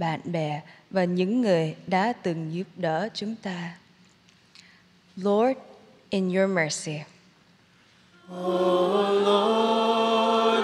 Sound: speaking in vietnamese

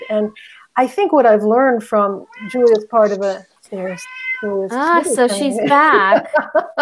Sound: meow

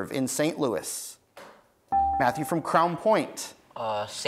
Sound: buzzer beeps

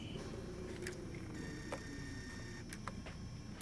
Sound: tape whirring

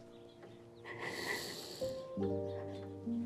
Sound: sniffling

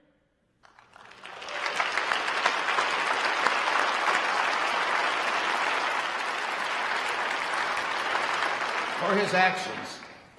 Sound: applause

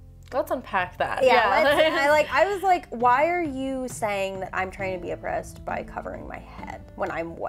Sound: stammers

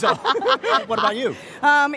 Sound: laughter

